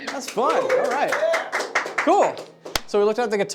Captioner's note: audience applauding